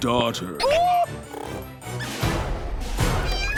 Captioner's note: Raph yelps